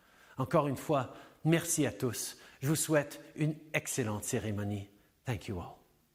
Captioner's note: French